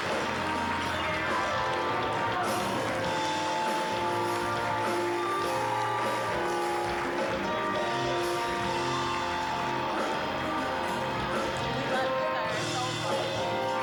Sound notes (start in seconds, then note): 4.3 applause; 4.3 uplifting music; 12.9 uplifting music